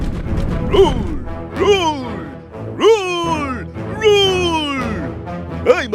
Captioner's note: loud growl